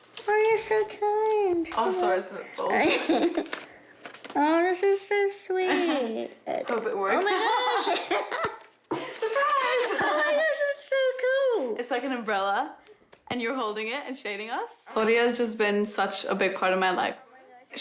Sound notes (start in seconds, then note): 7.7 both laugh; 8.8 laughs